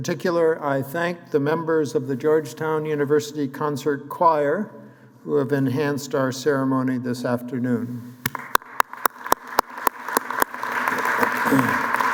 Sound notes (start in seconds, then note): 8.2 applause